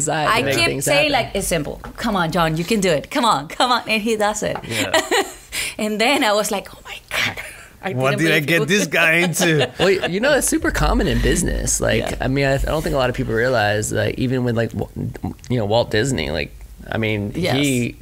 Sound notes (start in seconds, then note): 8.7 laughs